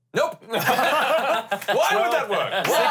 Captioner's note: everyone laughs